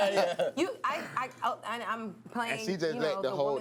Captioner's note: stammers